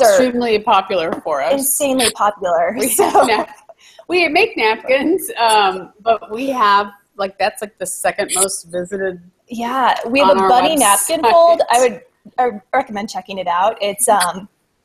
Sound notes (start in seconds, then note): 2.8 laughs